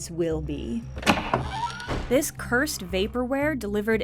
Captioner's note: sound of a door opening